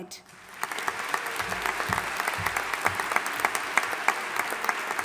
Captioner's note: audience applauding